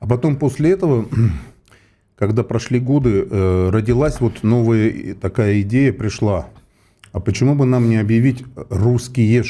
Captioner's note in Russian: откашливается